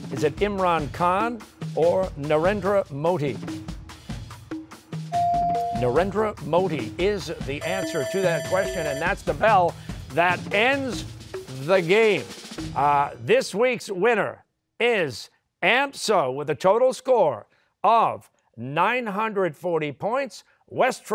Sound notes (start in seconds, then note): 7.6 bell ringing